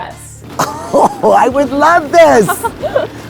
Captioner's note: chuckles